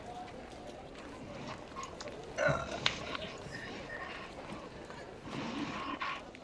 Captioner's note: the bustle of the street. people chatting nearby